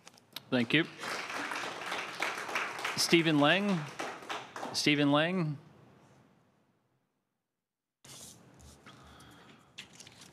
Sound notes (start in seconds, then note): 4.0 applause